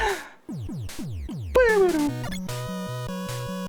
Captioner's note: laughs; hums along to BGM